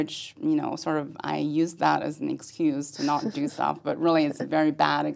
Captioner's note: laugh